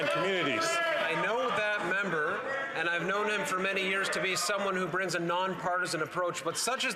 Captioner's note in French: voix de l'interprète